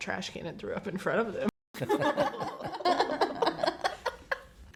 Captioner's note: all laugh